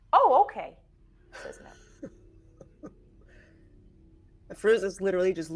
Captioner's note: chuckles